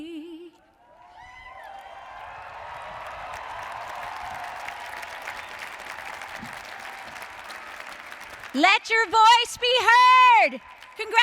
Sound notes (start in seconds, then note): 0.8 audience cheering; 1.1 applauding